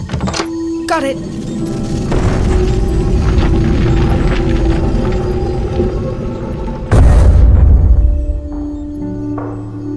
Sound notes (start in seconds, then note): 0.0 door slides open; 6.9 loud thud